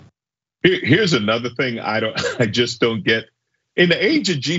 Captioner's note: laugh